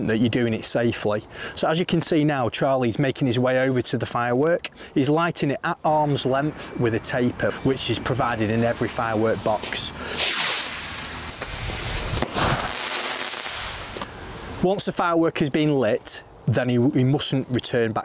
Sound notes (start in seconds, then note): 10.1 sound of rocket launching; 12.1 loud bang and crackle as the firework explodes